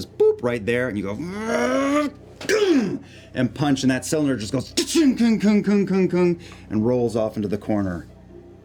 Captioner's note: grunts; metallic thudding